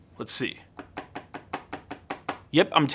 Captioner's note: tapping